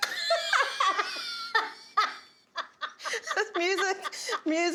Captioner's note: laughing